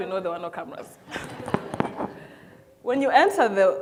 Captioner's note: audience laughs